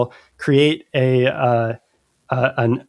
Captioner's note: uh